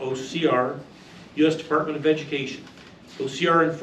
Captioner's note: reading from paper